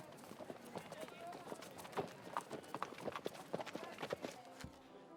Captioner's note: horse hooves clomping